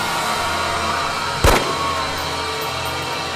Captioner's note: gunshot